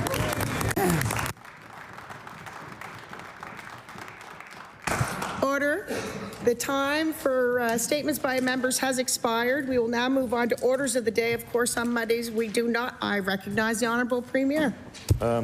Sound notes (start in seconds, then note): 4.0 applause